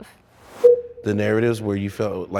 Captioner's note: transition whooshes; transition bleeps